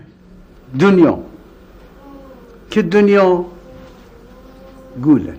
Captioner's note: speaking foreign language